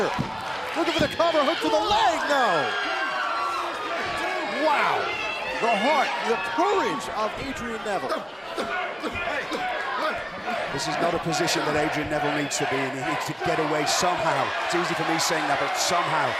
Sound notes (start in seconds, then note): 8.5 crowd cheering